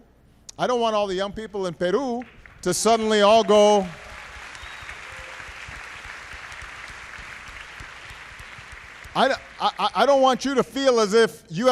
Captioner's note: applause